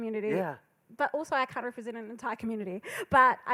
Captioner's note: laughs